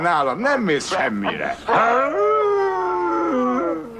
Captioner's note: howling